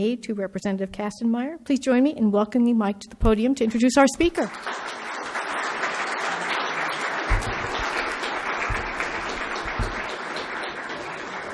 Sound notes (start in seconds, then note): 5.9 applauding